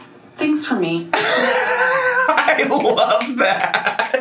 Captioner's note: laughing and snapping